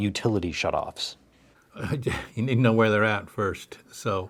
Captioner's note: laughs